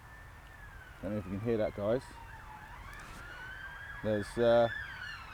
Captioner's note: sirens in background